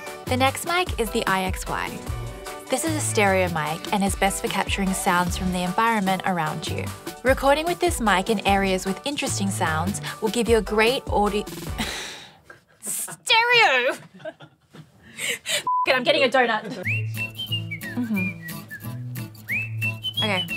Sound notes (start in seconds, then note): 13.8 laughing; 15.6 beeping; 16.7 upbeat whistling music